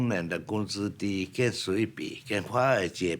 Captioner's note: speaking Chinese